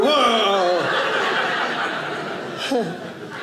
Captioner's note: audience laughing